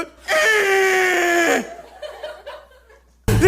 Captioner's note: more screams of effort